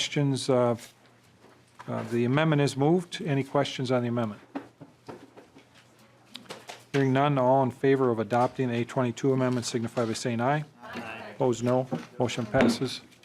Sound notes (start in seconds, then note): 10.8 chorus of ayes